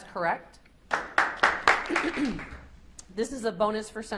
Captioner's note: audience applauds